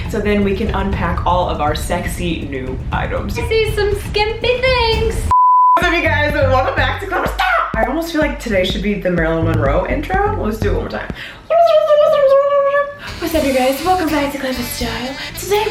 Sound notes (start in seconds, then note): 5.3 screen beeps; 12.9 speech rewinds